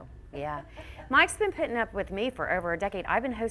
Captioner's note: audience member laughs